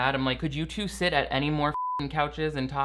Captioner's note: beeps